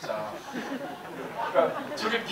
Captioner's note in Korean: 웃음